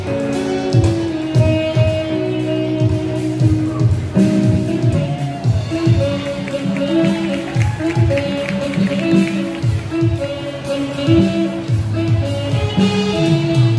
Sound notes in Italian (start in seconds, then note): 0.7 Applauso